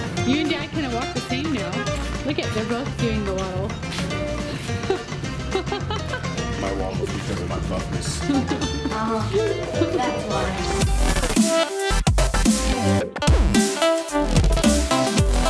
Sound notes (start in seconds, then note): 4.4 laughs